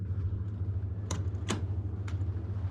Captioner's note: door shuts; waves lapping